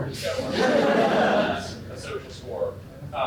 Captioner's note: laughter